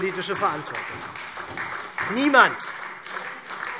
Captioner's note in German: Beifall SPD